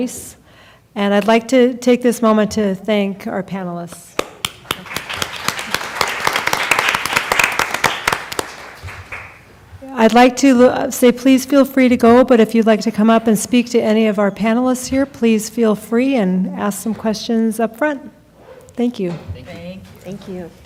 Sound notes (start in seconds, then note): 4.2 applause